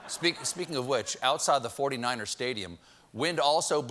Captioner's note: laughter